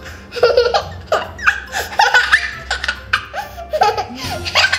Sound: laughing

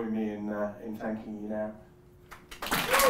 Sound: applause

